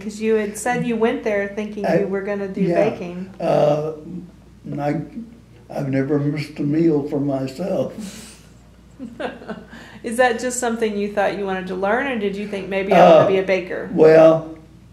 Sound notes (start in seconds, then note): 8.9 laughter